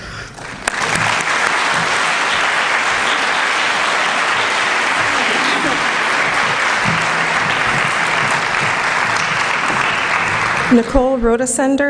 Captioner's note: applause